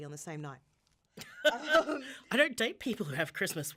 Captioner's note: laughing